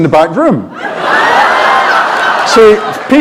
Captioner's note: laughter